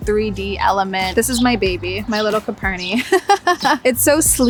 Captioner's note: giggles